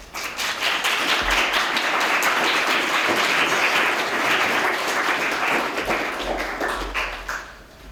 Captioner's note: applause